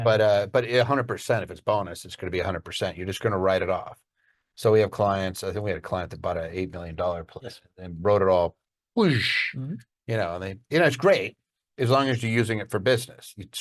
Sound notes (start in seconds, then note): 9.1 imitates whooshing